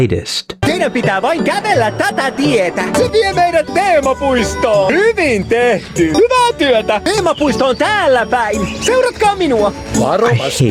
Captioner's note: Clemens Cow Sounds